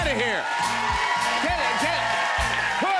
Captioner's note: cheers and applause